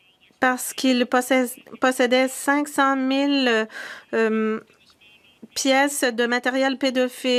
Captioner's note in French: voix de l'interprète